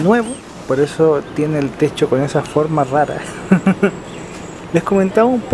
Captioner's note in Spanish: risas